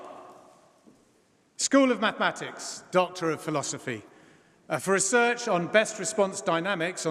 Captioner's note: applause; applause